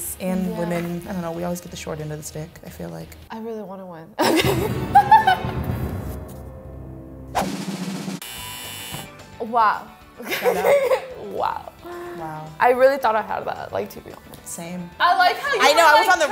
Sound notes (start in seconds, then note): 4.2 both laugh; 4.2 dramatic music; 7.3 drum roll; 8.2 buzzer; 10.2 laughs